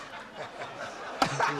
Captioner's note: laughter